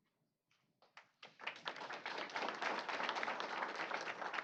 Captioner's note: applause